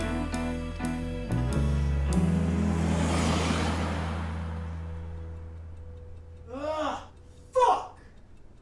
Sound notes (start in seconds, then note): 1.5 car passes